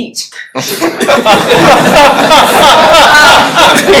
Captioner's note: laughter